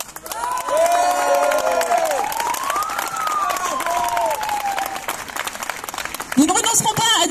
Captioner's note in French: applaudissements